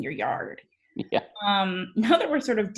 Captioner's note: laughing